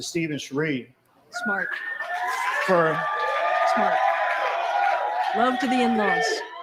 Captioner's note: video: cheers & applause